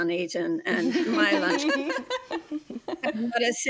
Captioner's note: group laughs